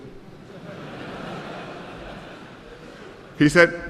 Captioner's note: laughter